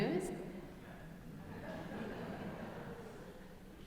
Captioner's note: audience laughing